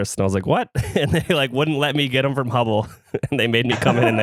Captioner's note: laughs